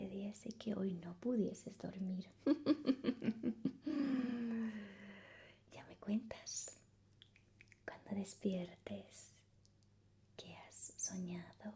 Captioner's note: laughs